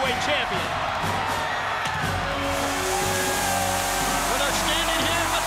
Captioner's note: crowd cheering